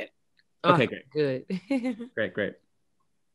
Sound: chuckles

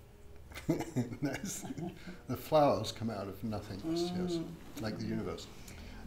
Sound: laughs

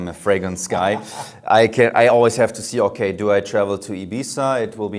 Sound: laughs

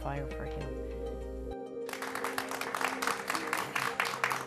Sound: applause

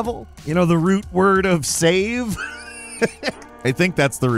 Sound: laughs

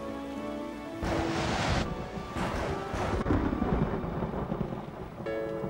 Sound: thunder clapping

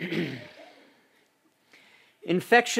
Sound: clears throat

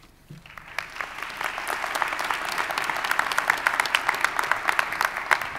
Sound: audience applauding

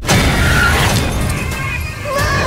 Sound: screaming

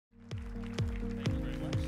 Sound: applause

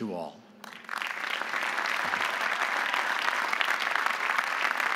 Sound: audience applauding

